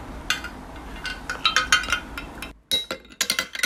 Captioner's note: ice clangy noises